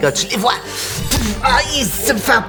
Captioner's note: hammer blow